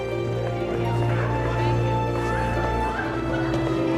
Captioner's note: background chattering